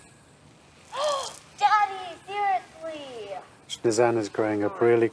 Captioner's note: gasps